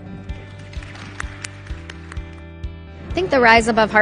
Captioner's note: audience applauding